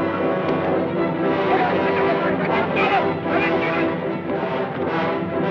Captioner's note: distant yelling